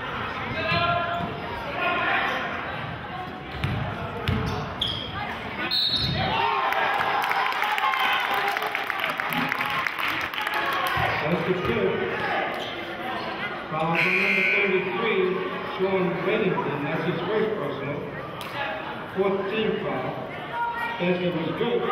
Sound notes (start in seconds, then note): 5.7 whistling; 7.7 cheering